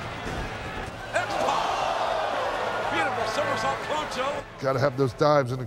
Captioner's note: applause